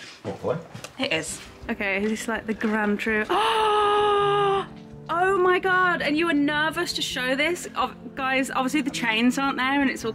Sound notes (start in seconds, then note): 3.3 gasps